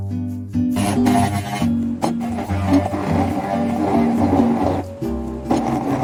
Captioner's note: the sound of crushing the ice